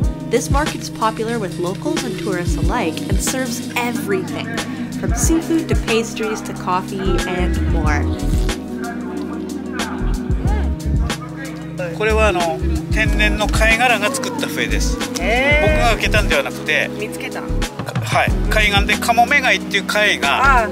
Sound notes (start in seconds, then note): 11.9 vendor speaking in foreign language; 16.9 speaking in foreign language; 18.0 vendor speaking in foreign language